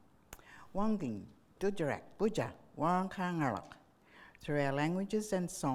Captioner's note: speaking in foreign language